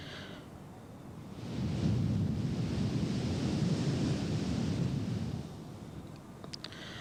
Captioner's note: mother blowing into the micro